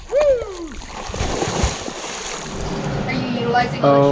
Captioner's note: water splashing